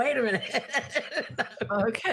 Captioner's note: laughing